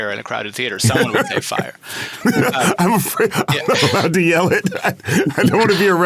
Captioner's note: laughing